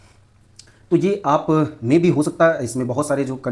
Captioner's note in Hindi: नाक से की जाने वाली आवाज़